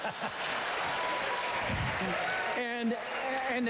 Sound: applause

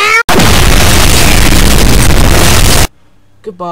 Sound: earrape explosion

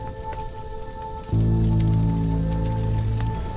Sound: crackling

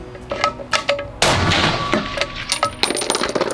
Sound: bam!!!

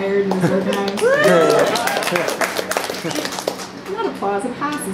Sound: audience applause and laughter

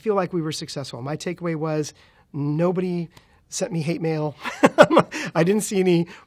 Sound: laughs

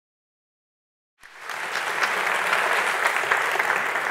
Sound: clapping

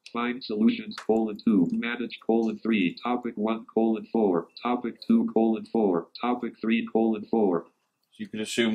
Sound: computerised voice

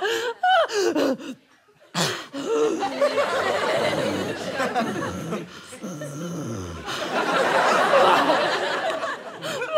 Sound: labored breathing

